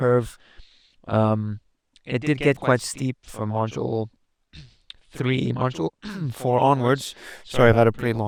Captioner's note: clears throat